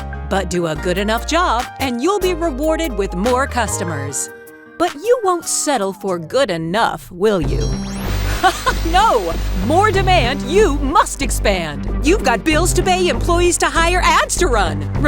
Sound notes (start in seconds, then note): 8.4 laughs